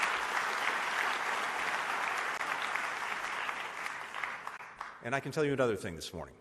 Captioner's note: applause